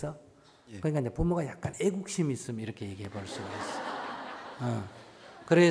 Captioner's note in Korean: 청중웃음